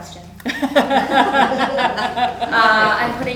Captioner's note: laughter